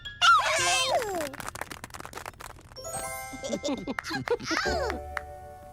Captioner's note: laughing; crowd applauding